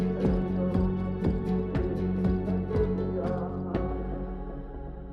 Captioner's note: gentle music continues; people chanting